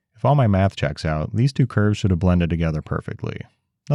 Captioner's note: none